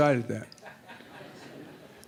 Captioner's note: laughter